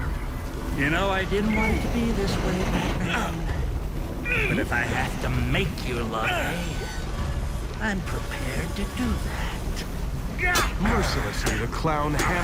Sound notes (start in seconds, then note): 9.4 grunting